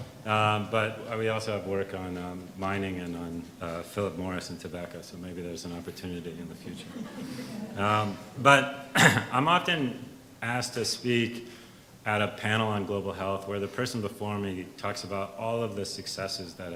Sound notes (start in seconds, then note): 6.6 audience laughs; 8.9 clears throat